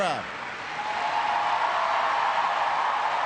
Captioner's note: cheers and applause